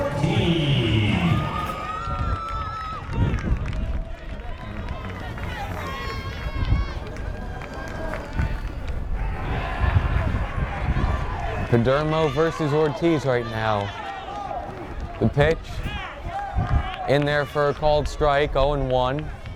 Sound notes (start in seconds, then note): 2.3 crowd cheers